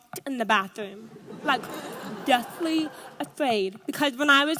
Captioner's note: audience laughs